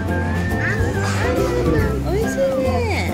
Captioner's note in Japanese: もぐもぐもぐ